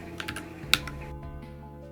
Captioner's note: clickclackclickclack; tap